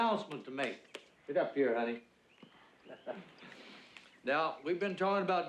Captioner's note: chuckles